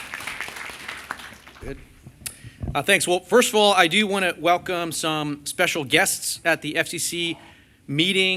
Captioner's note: applause